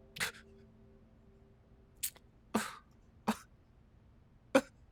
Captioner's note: crying